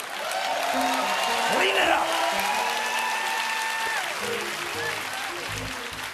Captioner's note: applause